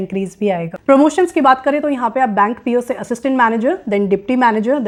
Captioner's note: speaking hindi